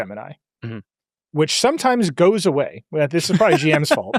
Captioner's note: laughs